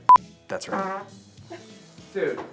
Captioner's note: beeps; farting